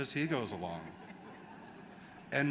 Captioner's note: laughter